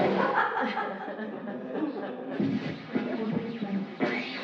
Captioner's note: laughing